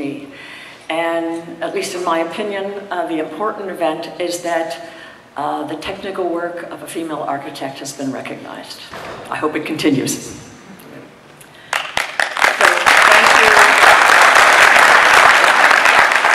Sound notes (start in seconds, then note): 11.6 audience clapping